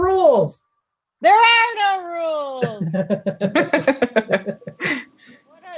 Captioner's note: laughs